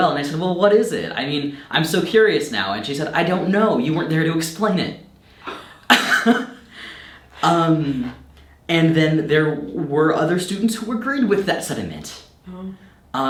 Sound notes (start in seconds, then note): 5.4 chuckles